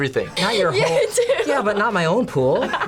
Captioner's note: laughs